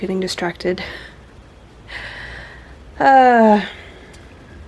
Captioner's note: laughs, vocalized sigh